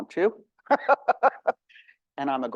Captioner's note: laughing